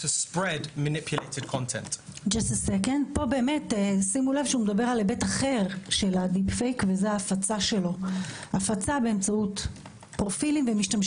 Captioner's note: in Hebrew